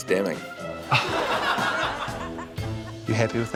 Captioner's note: laughs softly